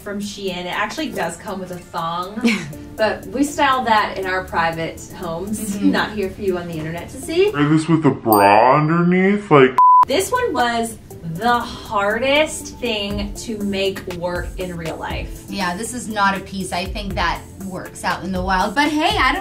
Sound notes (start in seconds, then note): 9.7 beep